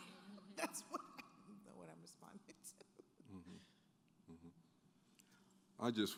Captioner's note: laughs